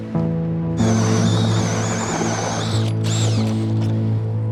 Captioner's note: auger drilling